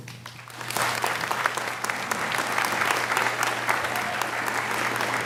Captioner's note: audience applauding